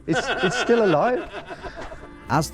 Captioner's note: laughs